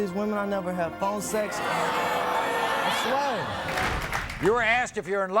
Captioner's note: audience booing